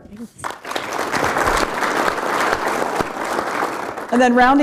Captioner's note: applause